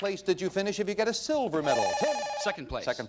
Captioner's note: bell rings